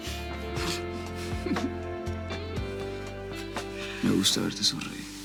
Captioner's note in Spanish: Risas